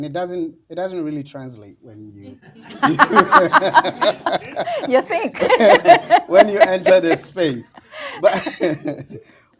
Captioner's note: laughter